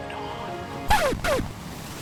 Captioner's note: record scratch